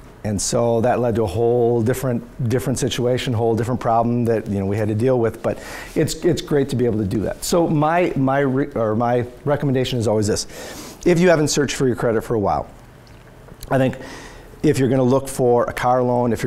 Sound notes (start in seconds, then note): none